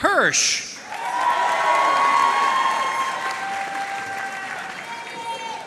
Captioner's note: audience cheering and applauding